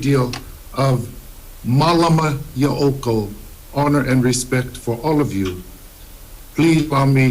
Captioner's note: speaks Hawaiian